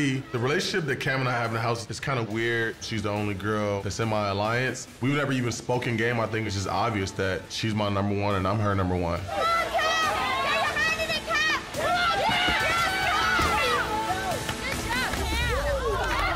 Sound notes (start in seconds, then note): 9.2 intense music; 9.2 cheering and yelling